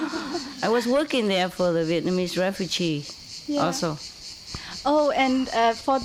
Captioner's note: Vietnamese